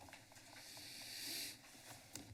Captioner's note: inhales